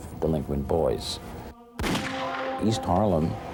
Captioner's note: gun fires